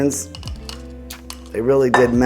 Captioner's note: bowl clanking